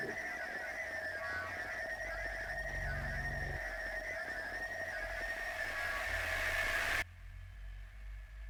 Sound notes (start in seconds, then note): 4.4 squealing static